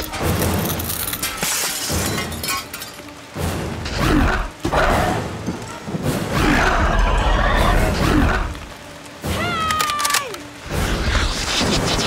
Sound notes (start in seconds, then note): 0.0 glass shattering; 4.6 dinosaur snarling